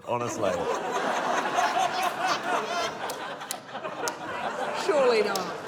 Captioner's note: laughter